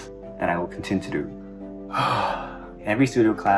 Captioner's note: dramatic breath